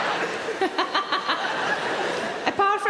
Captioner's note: audience laughing; Sarah laughing